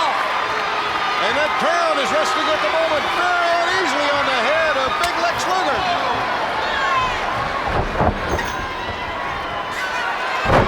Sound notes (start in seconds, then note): 0.9 crowd clamoring; 6.5 footsteps plodding; 8.1 body thudding; 8.1 footsteps plodding